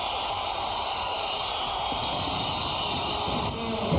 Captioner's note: fireworks